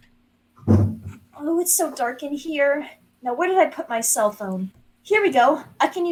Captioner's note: someone bumps mic